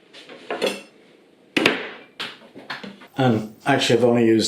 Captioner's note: blam!